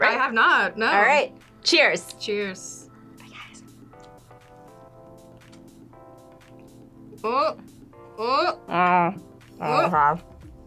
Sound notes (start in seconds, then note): 3.6 whispers